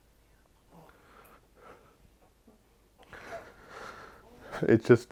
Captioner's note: breathing deeply